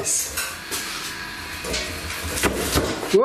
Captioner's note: bang